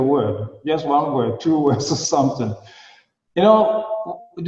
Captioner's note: laughing